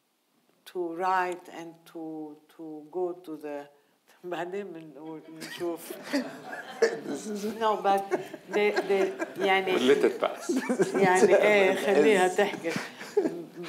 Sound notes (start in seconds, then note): 4.3 speaking in foreign language; 5.5 audience laughing